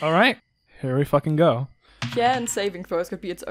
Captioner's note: dice clacks